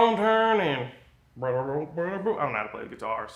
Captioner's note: imitates guitar